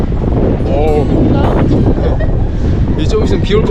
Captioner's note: heavy wind